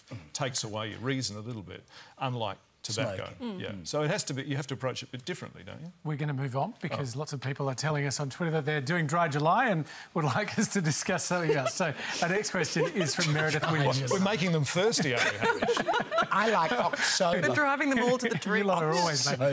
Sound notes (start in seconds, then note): 12.2 laughter